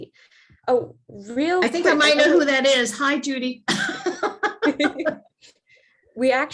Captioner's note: laughing